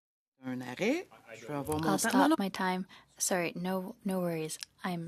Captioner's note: speaking in French